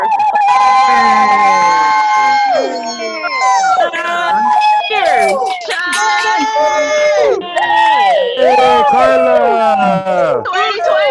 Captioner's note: cheering